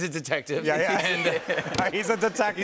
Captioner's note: laughter